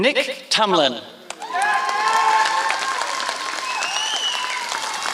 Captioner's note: applause